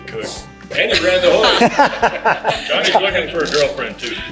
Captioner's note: guys laughing